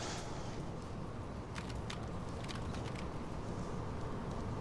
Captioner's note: cameras clicking